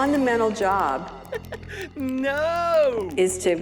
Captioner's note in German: lacht